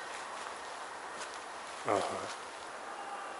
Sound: heard people's voices

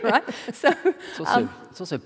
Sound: laughing

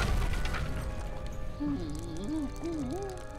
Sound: whimpering

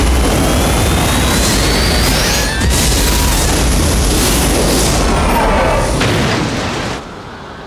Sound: screams

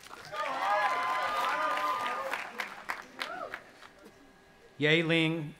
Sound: audience applauding and cheering

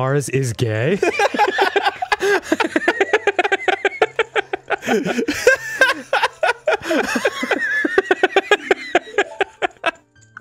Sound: laughter

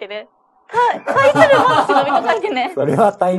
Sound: laughs

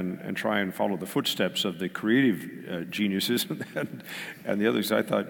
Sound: laugh

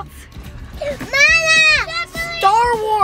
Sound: kids shouting

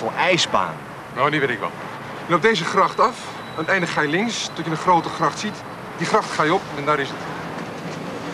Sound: gives directions in Dutch

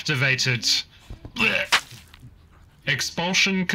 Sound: vomits

